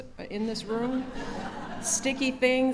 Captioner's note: laughter